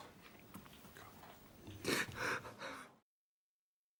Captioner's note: whispers